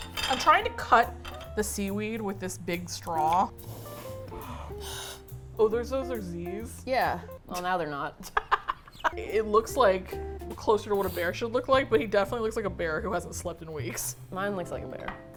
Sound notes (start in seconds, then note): 3.6 air blows through straw; 8.2 cackles